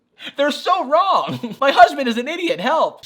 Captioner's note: laughs